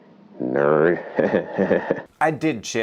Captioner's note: laughing